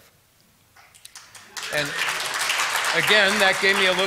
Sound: applause

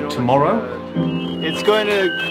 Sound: beacon beeping

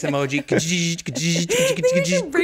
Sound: Rainn buzzing

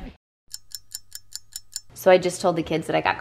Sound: rousing music; stopwatch ticking

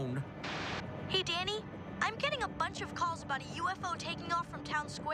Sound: static

